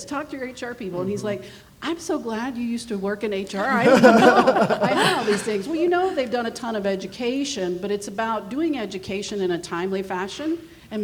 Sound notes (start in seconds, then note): 3.5 everyone laughing